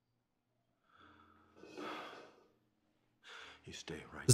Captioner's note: sighing